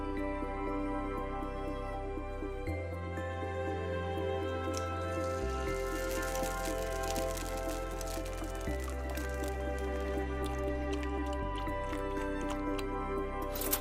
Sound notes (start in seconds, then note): 4.5 oil sizzling; 11.0 milk bubbling